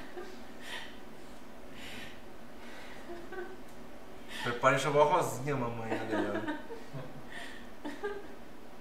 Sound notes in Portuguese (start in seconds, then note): 0.1 choro de emoção; 5.8 risos